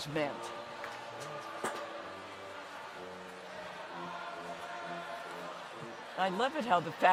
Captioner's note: choir singing distantly; crowd chatters distantly